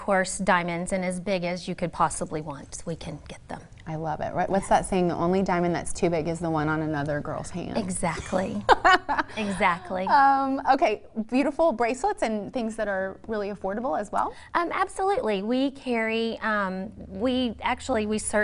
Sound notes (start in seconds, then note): 8.2 laughter